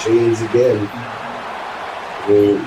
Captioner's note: crowd Noises